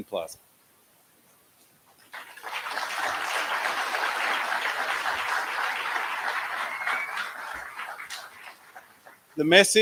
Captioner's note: applause